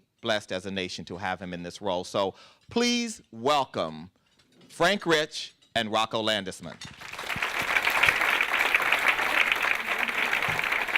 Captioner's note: applause